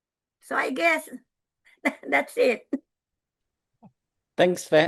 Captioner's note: laughs